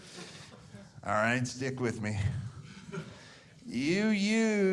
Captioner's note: audience laughing